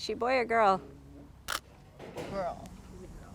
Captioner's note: camera clicking